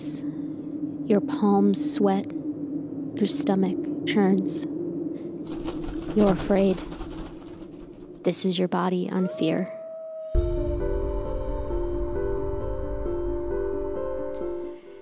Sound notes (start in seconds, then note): 5.4 bat wings flapping; 9.2 wolves howl; 10.4 soft piano music